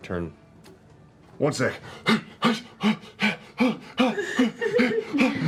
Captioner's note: panting